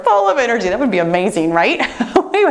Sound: laughs

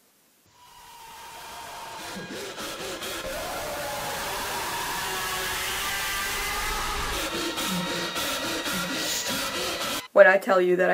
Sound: hellish sounds of the tortured screaming of the forever damned

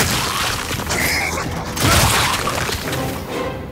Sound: screams

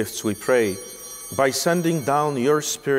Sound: chimes ringing

